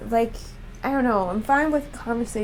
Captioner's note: none